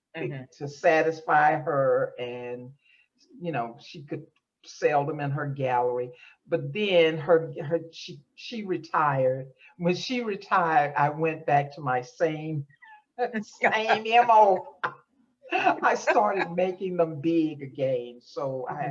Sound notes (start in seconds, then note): 13.5 laughs